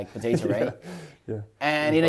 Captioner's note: laughs